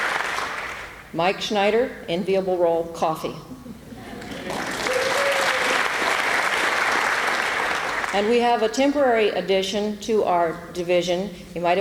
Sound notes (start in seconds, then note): 4.2 applause